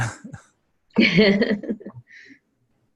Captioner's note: laugh